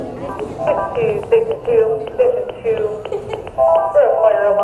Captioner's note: radio chatter